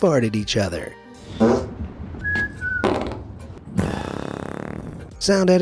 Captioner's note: fart rumbles